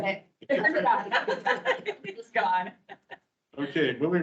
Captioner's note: members laughing